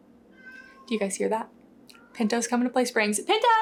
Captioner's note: Pinto meowing